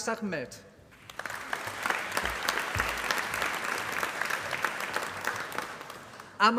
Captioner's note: applause